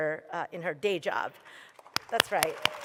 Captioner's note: applause